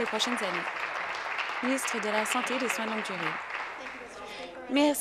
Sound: applause

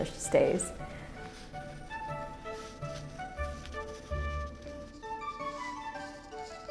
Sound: classical music; fabric rustling

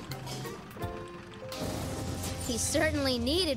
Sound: crash

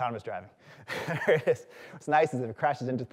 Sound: chuckles

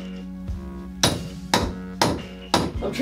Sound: pounding on pipes

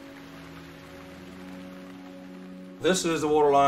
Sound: raining

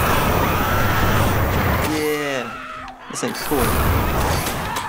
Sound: flames whoosh; shrill screams

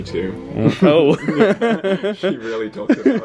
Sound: they laugh

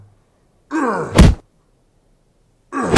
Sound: punch; punch

